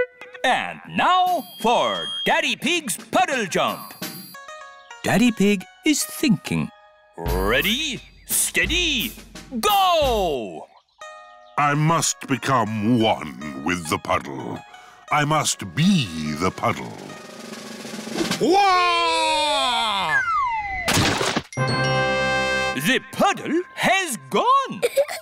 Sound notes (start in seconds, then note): 18.2 exclaims; 24.8 laughs